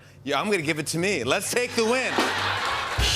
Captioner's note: laughter